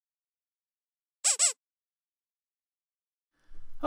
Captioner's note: sound effect